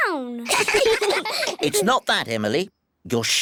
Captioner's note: all giggle